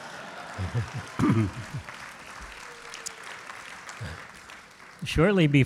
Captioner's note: audience claps and laughs; clears throat